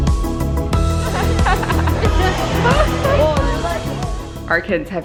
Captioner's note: laughter